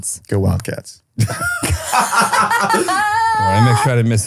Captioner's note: laughs